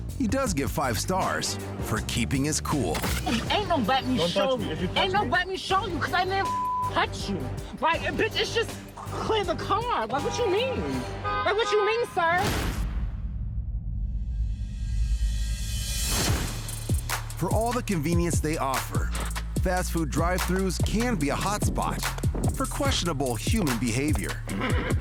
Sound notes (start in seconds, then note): 6.4 beep; 10.1 horn blares; 12.8 horn honking; 13.5 soft ominous music; 16.6 slow upbeat music